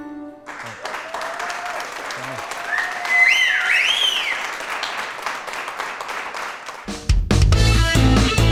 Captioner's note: clapping